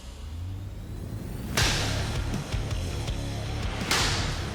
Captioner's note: metal striking